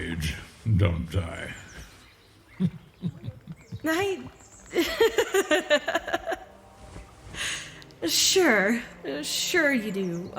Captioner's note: laughing at his absurd comment